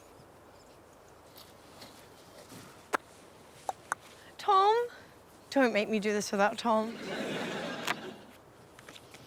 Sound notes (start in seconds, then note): 2.8 clicks tongue